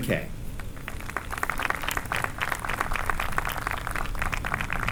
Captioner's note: applause